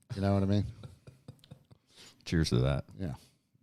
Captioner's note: chuckling